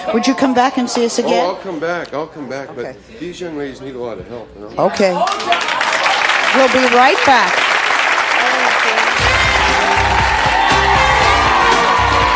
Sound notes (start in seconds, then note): 5.4 applause drowns out speaker; 8.9 audience applauding; 12.2 upbeat music